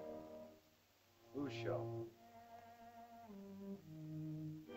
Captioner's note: Tumak speaks in caveman language